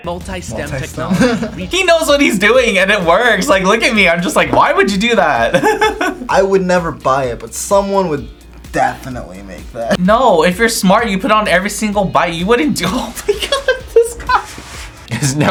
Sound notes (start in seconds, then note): 0.0 buzzer rings; 0.2 laughs; 12.8 laughs